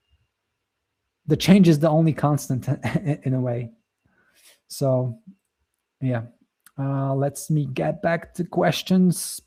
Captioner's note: chuckles